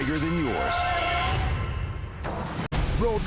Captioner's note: brake screeching